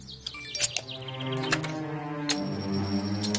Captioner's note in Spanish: Aviso de mensaje entrante